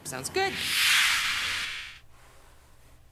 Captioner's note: whoosh